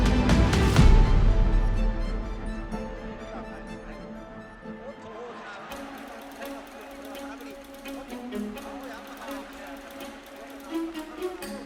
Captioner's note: crowd cheers